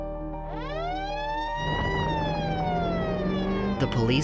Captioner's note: police siren